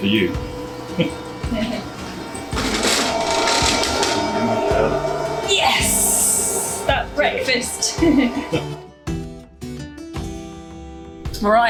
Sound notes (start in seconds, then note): 0.8 upbeat music; 3.5 train engine; 8.2 upbeat music